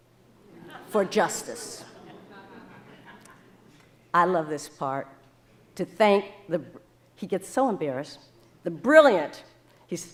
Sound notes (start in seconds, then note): 0.4 audience laughing